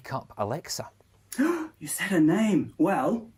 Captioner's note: gasp